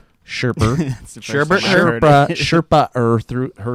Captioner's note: chuckles